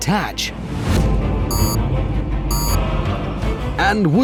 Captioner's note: beep, beep